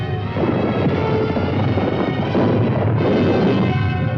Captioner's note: rocks rumbling